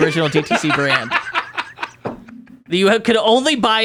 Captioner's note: laughing